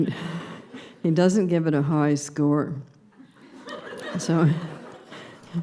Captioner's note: laughter